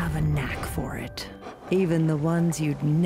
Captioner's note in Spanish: perro jadeando